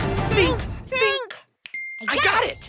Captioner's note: ding